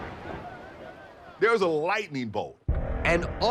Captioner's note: thunder cracks